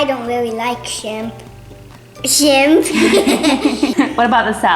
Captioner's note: laughing